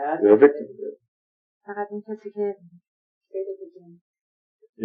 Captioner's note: speaking Farsi